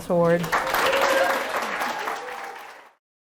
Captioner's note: applause